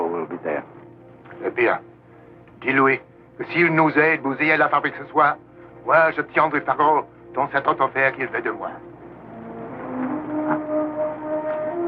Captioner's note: speaking french